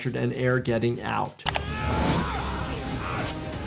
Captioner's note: grunting